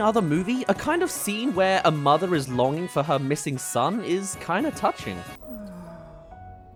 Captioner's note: sigh